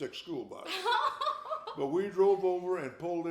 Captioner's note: laughing